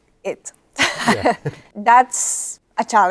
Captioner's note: laughs